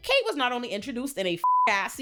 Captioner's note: beep